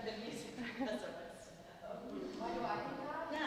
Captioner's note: audience members chattering